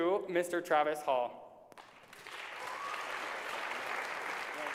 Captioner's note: applause